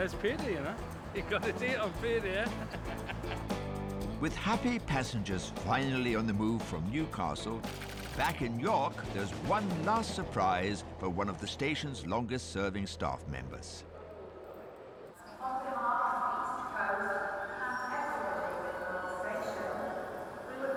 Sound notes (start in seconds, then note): 3.7 laughs; 7.2 destination board clacking